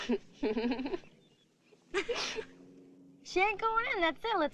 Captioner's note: Kitty laughing